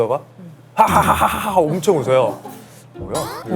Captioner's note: the director suddenly laughed heartily